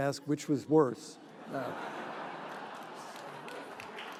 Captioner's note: laughing